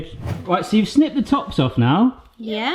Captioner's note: air whooshing